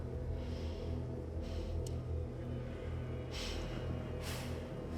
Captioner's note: heavy breathing